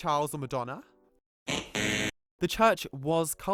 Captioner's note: wrong answer buzzer